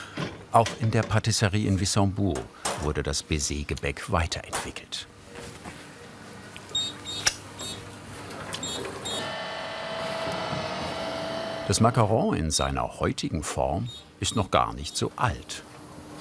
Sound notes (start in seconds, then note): 6.6 beeps